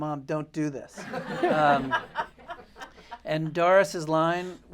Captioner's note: laughter